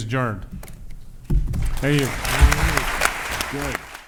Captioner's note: applause